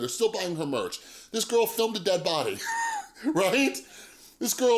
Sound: laughs

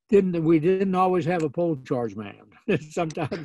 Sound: laughs

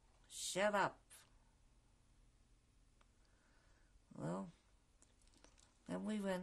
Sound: pauses for 3 seconds

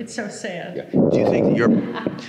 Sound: woman laughs

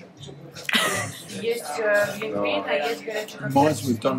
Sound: laughing

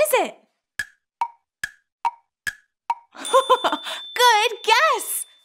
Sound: clock ticking

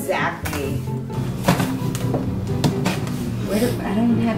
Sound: light thuds

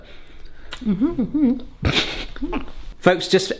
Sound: hums

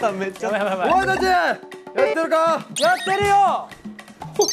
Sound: stumbling

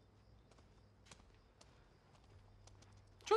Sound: footsteps recede

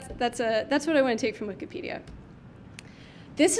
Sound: clicks mouse

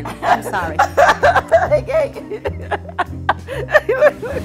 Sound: laughing

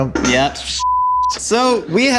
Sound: beep

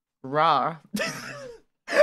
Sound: she laughs

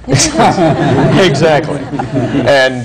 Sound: laughter

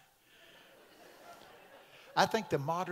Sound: congregation laughing

